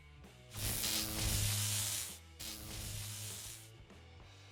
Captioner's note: electric buzz